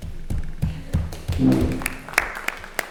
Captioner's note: applause